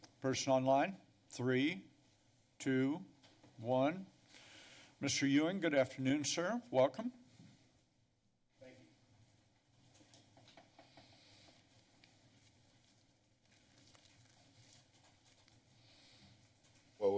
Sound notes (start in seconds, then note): 4.1 pause